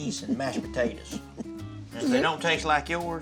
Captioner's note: chuckling